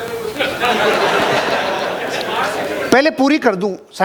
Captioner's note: laughing